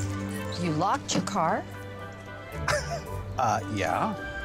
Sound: scoffs

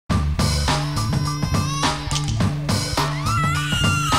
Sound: upbeat music; child crying

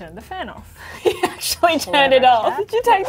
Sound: laughs

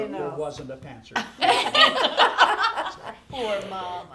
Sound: group laughing

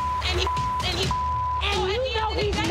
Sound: beep

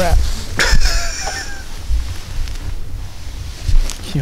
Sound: laughs

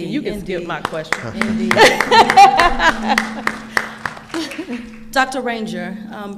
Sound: laughing and clapping

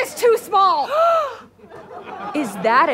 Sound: Jetta gasps

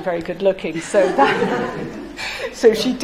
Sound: laughing

